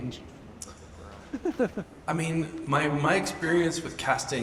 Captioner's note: audience member laughs